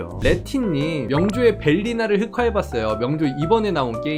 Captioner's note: voiceover